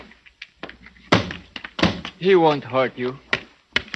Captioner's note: knocking on door